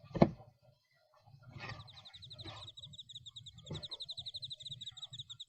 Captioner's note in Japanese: 虫の声